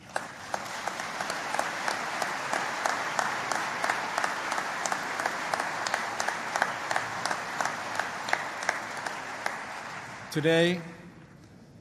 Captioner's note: applause